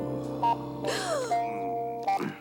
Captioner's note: gasps